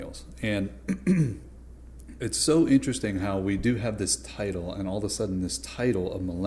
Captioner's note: clears throat